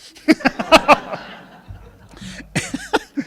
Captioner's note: laughing